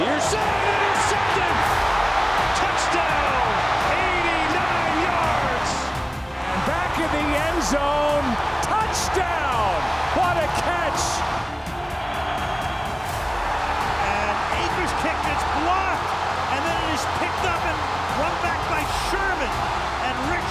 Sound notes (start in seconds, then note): 11.9 fans cheering